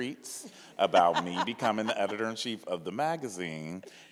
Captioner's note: laughs